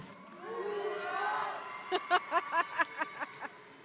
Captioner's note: audience cheering